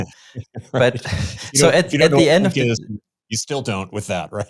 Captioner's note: chuckling